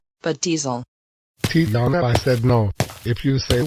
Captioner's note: footsteps